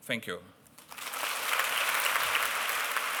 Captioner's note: applause